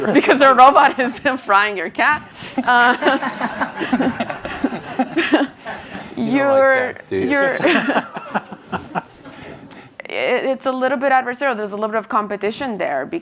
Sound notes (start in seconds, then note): 2.6 audience laughs; 7.0 panelists laughs